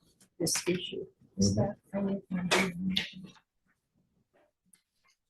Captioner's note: faintly speaking